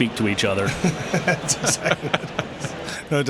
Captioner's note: laughter